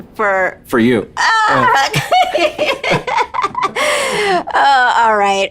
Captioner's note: laughing